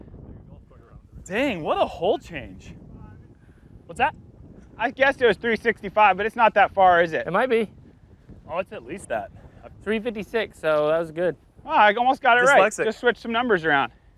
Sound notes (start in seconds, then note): none